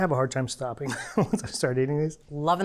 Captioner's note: chuckles